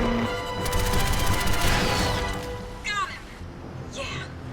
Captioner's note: turret firing